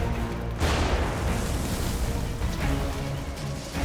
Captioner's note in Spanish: Explosión